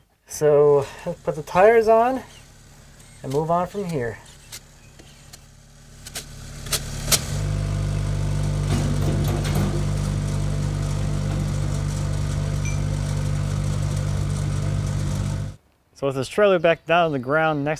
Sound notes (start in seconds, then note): 4.4 drill buzzing; 7.6 engine humming